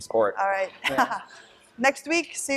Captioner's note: laughter